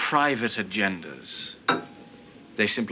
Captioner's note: mug clunks